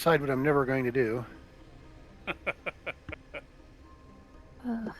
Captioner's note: laughter